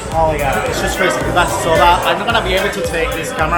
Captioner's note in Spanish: asistente gritando instrucciones ahoga